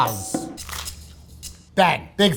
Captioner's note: upbeat music; sandwich rustling